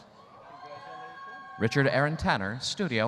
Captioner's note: audience cheering